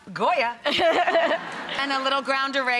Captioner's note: laughing